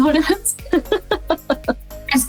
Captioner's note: laughs